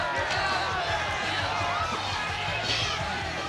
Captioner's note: crowd cheering